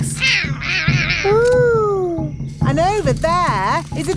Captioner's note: roaring